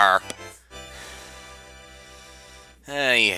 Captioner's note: breathing